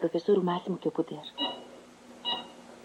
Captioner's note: beeping